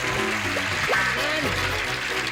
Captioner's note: applause